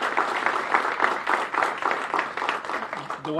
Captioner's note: applause